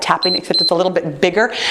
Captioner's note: timer beeps